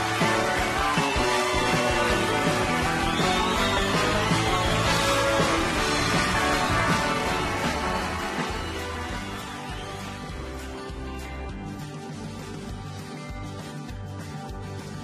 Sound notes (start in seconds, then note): 3.5 audience cheering